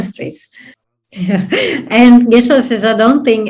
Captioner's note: laughs